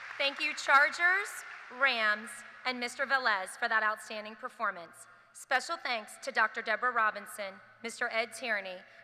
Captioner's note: applause